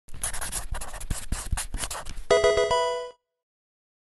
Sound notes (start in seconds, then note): 0.1 marker scratching; 2.3 electronic video game sound